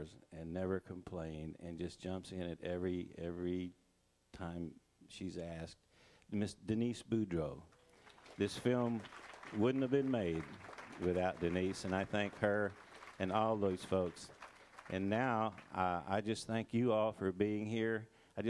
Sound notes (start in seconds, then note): 7.2 crowd applauding